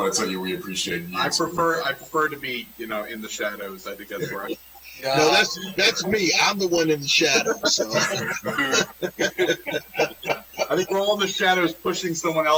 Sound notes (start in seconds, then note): 3.6 laughter